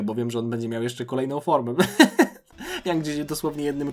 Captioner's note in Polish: śmiech